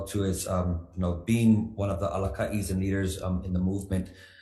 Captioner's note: speaks foreign language